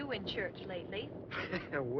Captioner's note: laughs